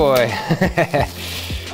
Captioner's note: laughs